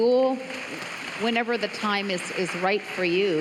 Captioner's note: applause